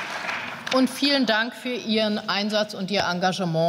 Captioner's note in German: Beifall